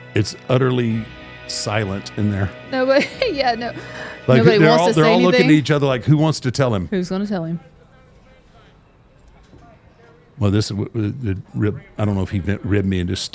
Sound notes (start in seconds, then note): 2.8 chuckles